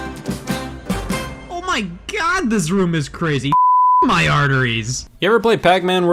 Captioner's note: beep